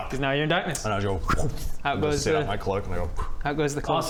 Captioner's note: woompf